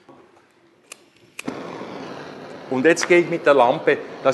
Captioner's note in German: Bunsenbrenner faucht hörbar